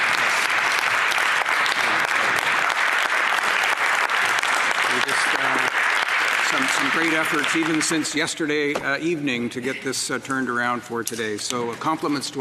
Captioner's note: applause